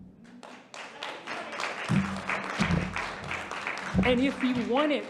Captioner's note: audience applauding